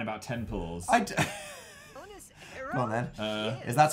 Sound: laughs

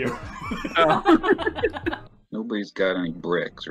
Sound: laughter

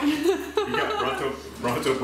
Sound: laughing

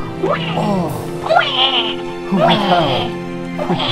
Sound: cries

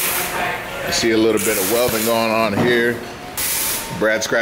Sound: welder crackling

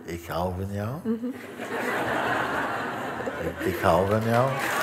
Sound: laughter; applause

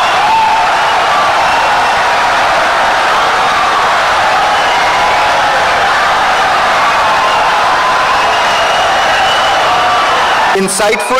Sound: wild applause and cheering for 17 seconds

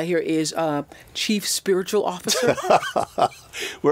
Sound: laughs

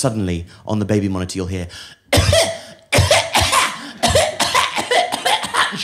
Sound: coughs

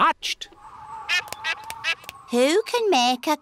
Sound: all quacking

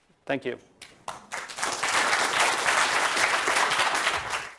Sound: applause

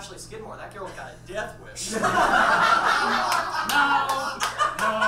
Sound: audience laughs

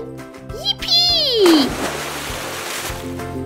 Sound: spash!

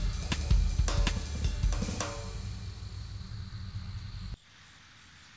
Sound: chase music ends; engine shuts off

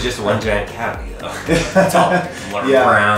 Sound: laughs

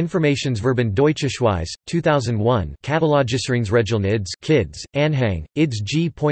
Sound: in German

